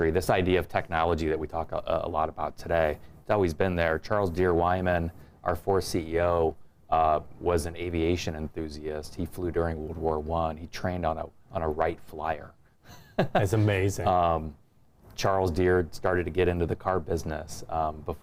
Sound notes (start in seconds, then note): 12.9 laughs